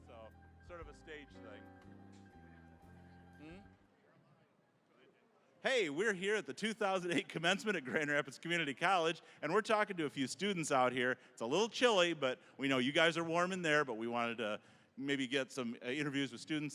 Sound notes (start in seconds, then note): 7.0 chuckling